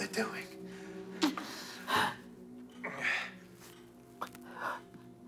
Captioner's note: both grunting